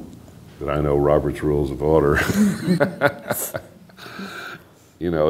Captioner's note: laughter